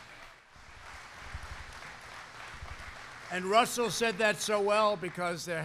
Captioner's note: applause